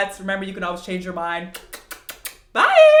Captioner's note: kisses